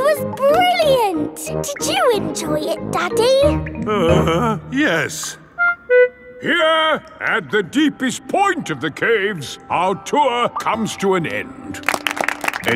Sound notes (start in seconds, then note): 4.3 groans